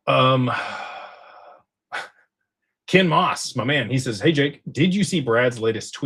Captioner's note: sighs